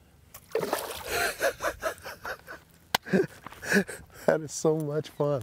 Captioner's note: laughs